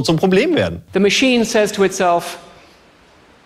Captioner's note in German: englisch